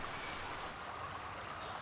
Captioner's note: rushing water